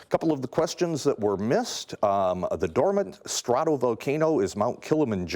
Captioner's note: none